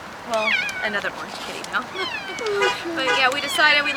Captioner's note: chuckle